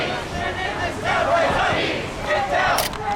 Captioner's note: crowd